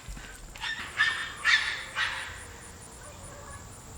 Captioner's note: kids yelling and running; dogs barking